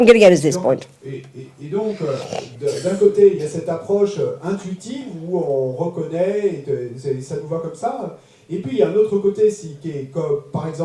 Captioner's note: French